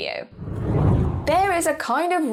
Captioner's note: air whooshing